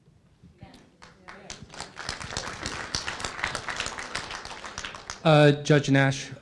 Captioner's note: applause